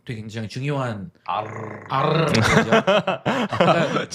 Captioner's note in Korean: 웃음